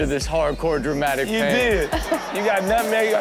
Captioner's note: crowd laughs